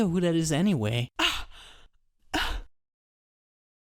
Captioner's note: Khalessa gasps